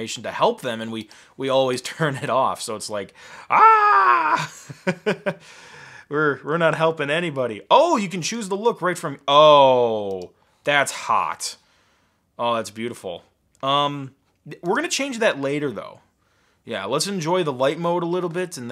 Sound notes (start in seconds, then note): 4.0 laughing